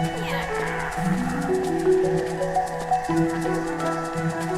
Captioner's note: clockwork sounds within head